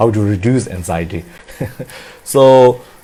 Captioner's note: laughs